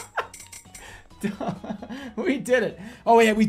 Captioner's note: bursts out laughing; giggling